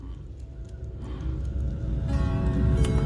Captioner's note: gasping